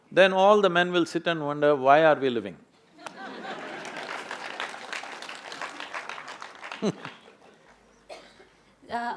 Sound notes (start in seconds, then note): 3.4 applause; 6.1 laughs